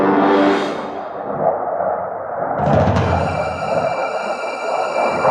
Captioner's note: airplanes whooshing